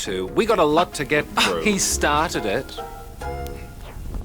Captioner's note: scoffs